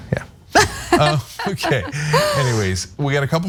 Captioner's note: laugh